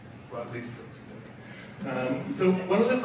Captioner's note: speaks faintly